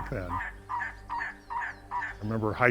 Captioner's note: trogons bark